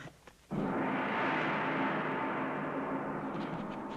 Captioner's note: gong banging